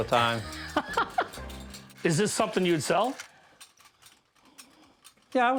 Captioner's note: laughs